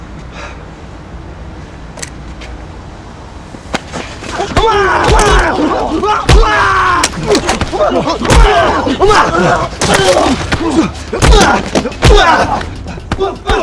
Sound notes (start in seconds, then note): 5.2 Ramsay vocalizing; 5.2 feet and fists bashing